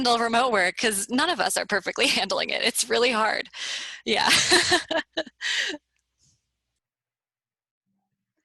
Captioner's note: laughter